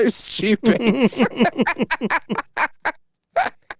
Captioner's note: both laughing